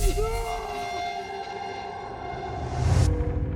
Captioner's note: none